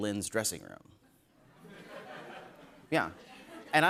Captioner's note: laughter